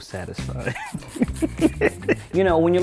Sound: laughs

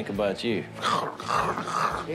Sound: mimes slobbering

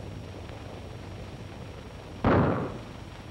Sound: gunshots

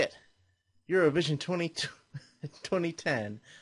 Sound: chuckles

